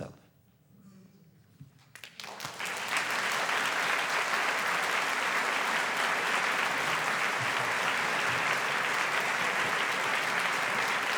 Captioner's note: applause